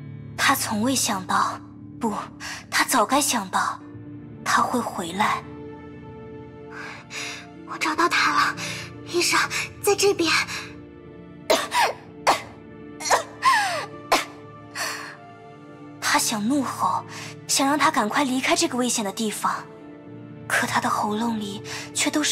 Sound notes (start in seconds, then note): 11.5 coughs